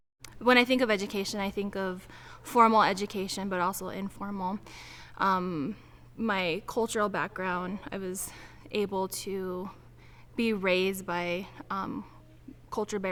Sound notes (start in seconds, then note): none